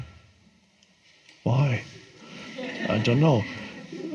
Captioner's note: audience laughs